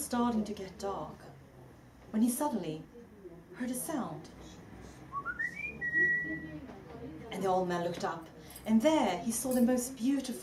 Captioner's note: whistling